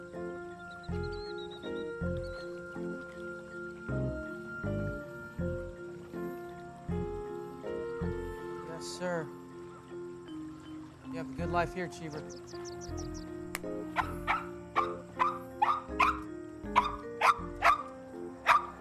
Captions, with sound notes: YES, SIR. YOU HAVE A GOOD LIFE HERE, CHEAVER. [DOG BARKING]